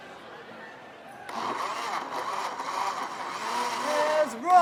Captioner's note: blender whirring